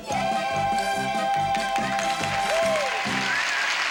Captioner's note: applause